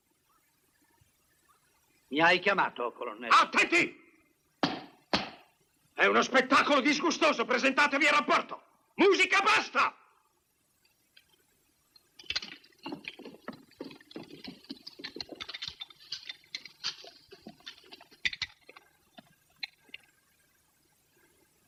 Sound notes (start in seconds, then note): 0.0 silence; 4.6 stamps floor